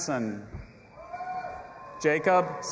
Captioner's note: audience applauding and cheering